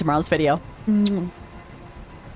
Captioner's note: kiss